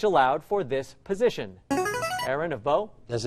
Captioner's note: chiming